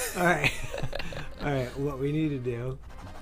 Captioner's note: laughter